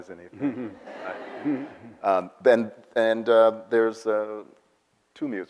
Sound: audience laughs

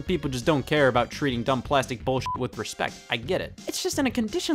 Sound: beep

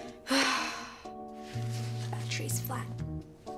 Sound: April sighs

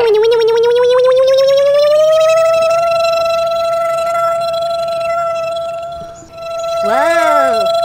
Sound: motor sound

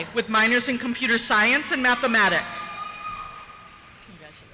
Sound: cheers

